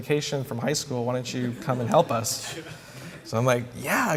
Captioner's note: laughter